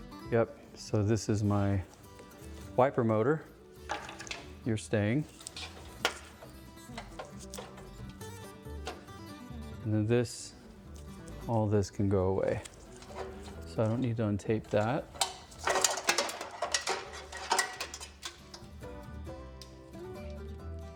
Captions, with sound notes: Yep, so this is my wiper motor. You're staying. And then this, all this can go away. So I don't need to untape that. (Metal Clanking)